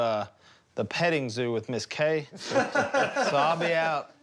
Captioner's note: laughter